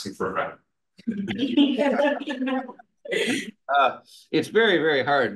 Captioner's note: group laughing